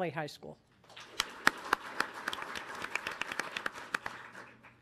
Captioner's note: audience applauding